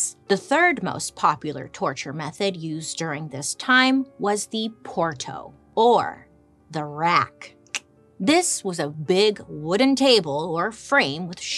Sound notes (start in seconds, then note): 6.7 tongue clicks